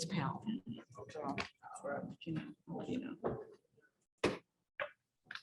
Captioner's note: participants chattering